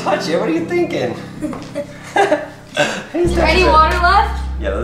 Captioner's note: laughter